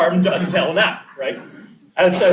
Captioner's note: laughter